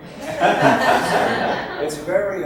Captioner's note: audience laughs